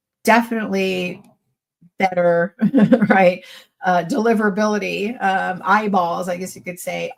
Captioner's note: chuckles